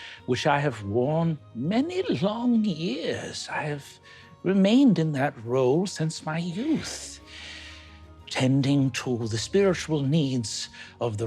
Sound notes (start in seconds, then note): none